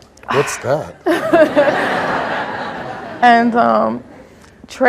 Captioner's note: audience laughs